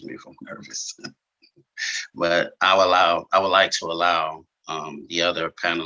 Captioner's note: chuckles